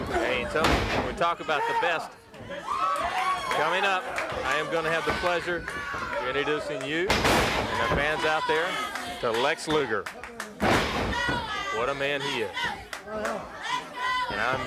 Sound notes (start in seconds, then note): 7.0 body thudding; 10.6 blows thudding